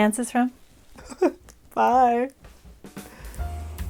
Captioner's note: laugh